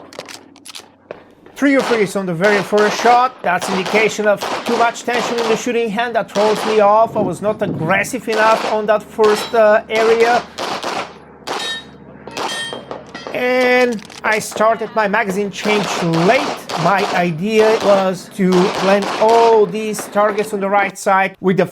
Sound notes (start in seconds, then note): 0.0 gun clicking; 10.3 gunshots banging; 11.7 targets pinging